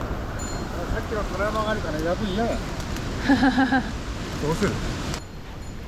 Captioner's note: bees